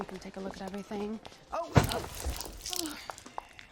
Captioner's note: liquid spills